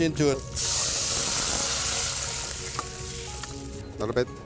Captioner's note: sizzling